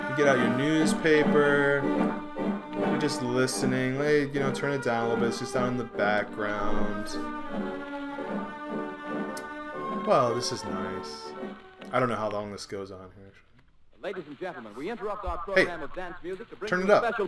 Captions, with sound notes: You get out your newspaper. You're just listening, turn it down a little bit. It's just on in the background. Well, this is nice. I don't know how long this goes here. >> (radio) Ladies and gentlemen, we interrupt our program of dance music to bring you-- >> Hey, turn it up!